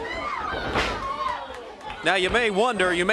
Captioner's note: crowd chatter